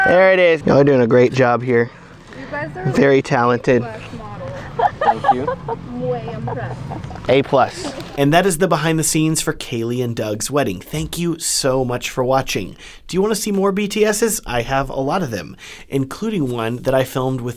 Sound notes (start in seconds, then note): 3.8 laughs